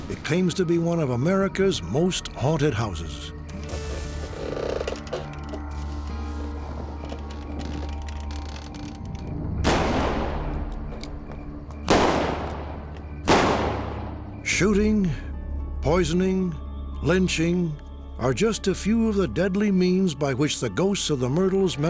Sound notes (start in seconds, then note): 3.4 creaking; 9.6 gunshots